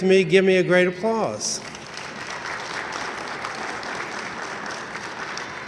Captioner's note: audience applauding enthusiastically